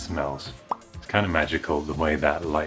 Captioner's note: pop!